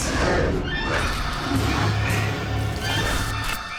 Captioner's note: creature growling